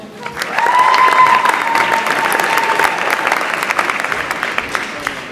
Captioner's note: audience applauds and cheers